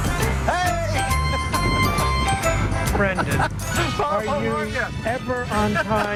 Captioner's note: honking horn